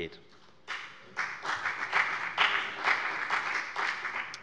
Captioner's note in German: Beifall bei der FDP